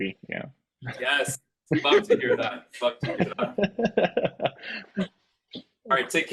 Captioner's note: chuckling